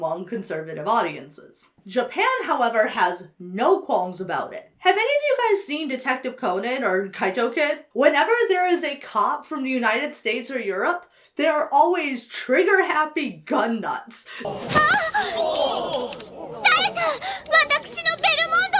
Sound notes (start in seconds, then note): 14.7 Anne shouts; 16.6 Anne speaking Japanese